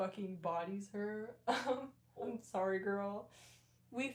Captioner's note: laughter